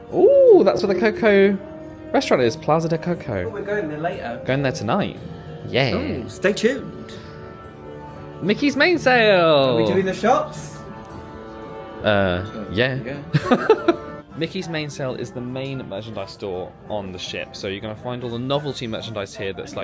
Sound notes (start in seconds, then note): 13.3 laughs